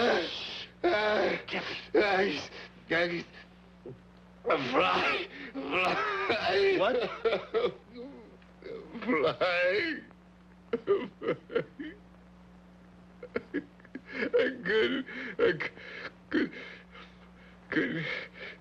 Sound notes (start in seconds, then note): 0.0 coughs; 5.9 Roy coughing; 7.1 coughs; 10.6 sobbing; 13.2 sobbing